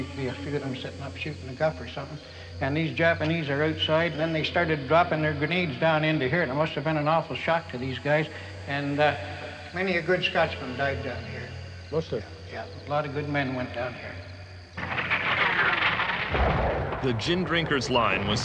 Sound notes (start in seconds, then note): 12.5 guns firing